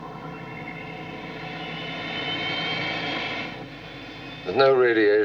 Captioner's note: motores zumbem